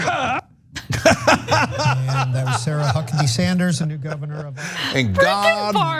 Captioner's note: laugh